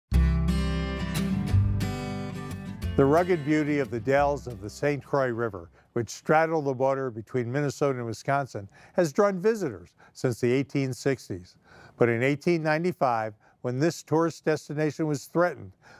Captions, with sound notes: (lighthearted guitar music) - [Voiceover] The rugged beauty of the Dalles of the St. Croix River, which straddle the border between Minnesota and Wisconsin has drawn visitors since the 1860s. But in 1895, when this tourist destination was threatened,